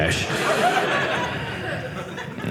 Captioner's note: audience laughing